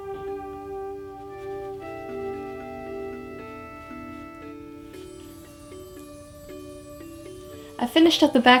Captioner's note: soft brushing